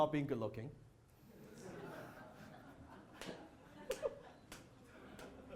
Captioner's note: audience laughs